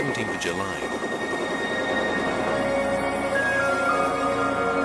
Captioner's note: guns blasting